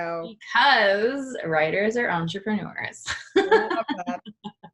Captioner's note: laughs